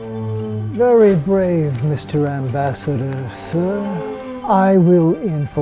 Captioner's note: clapping